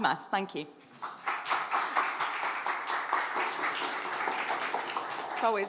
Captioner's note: applause